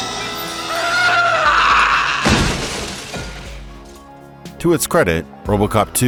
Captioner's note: horrific shrieking